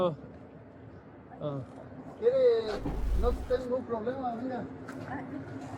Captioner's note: man speak in Foreign language